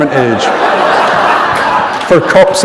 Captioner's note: laughter